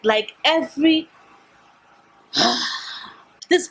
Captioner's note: sigh